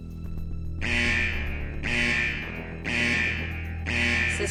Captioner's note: alarm ringing